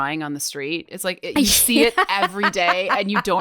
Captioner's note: laughs